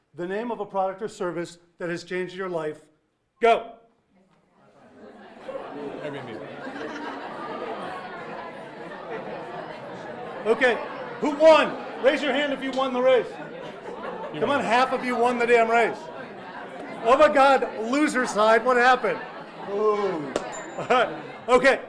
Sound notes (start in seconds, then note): 5.3 audience members talking; 20.4 bell dinging